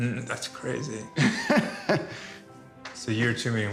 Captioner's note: laughs